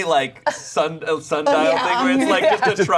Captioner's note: laughing